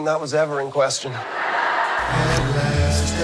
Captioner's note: audience laughing